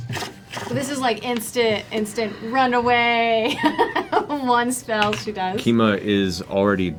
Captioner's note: laughs